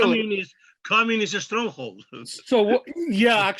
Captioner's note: chuckles